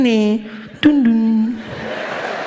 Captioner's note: PA system turns off